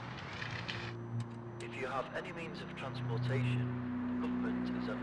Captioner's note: radio Voice